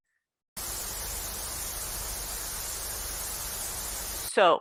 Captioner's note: static